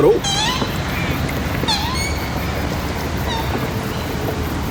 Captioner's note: animal squawking